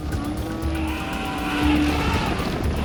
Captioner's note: elephants trumpeting